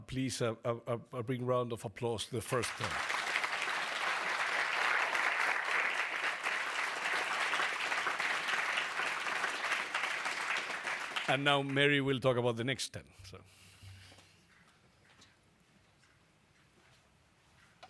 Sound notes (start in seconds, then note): 3.7 applause